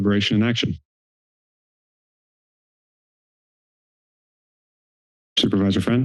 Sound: pause

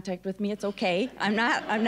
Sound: audience laughing

